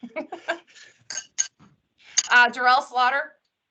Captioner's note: laughs